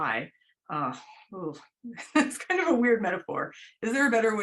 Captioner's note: laughter